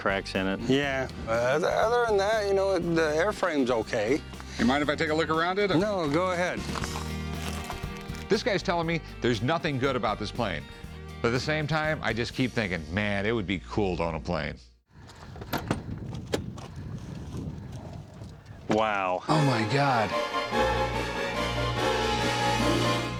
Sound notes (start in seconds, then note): 15.0 thudding; 19.3 dramatic music